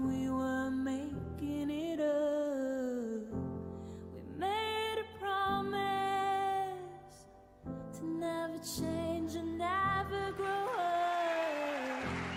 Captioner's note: applause